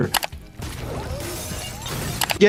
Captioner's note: mouse clicking; glass shattering